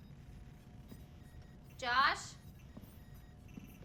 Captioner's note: computer beeping faintly